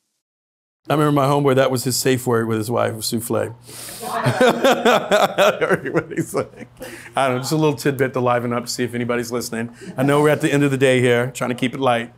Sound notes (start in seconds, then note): 4.0 laughs